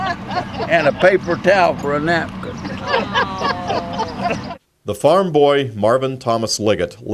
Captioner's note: laughter